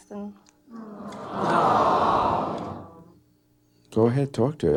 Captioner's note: audience awing